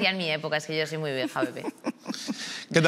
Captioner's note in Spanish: algunos ríen